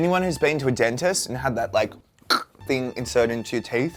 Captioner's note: makes cracking sound